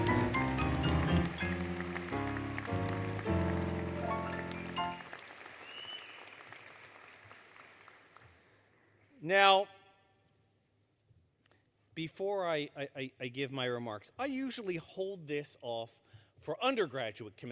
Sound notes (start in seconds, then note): 0.0 applause, Music; 5.6 applause, Cheering